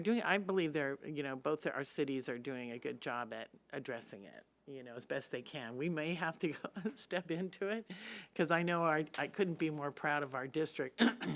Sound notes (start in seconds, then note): 6.8 laughing